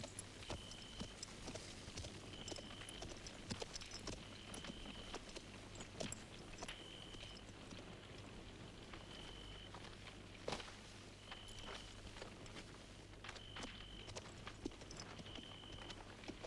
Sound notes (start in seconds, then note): none